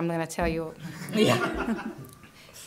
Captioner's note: laughter